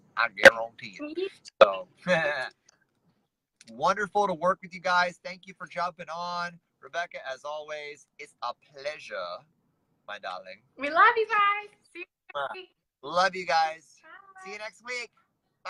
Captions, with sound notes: I guarantee it. [chuckles] Wonderful to work with you guys. Thank you for jumping on. Rebecca, as always, it's a pleasure, my darling. We love you, bye. See you next week. Love you guys. -Bye. -See you next week.